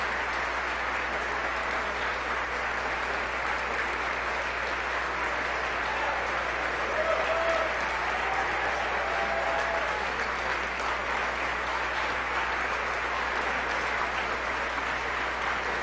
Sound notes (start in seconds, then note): 9.3 applause